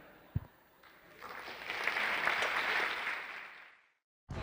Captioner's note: applause